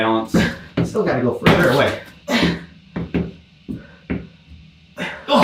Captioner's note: grunting